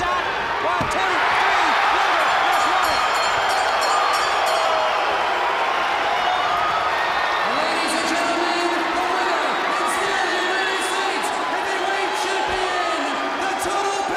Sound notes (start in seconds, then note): 2.8 crowd cheering; 3.9 bell ringing; 5.0 crowd cheering